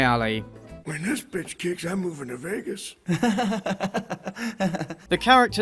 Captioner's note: awkward laughter